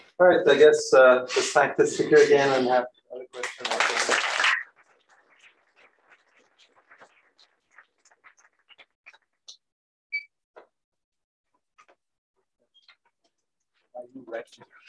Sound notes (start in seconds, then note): 5.5 applause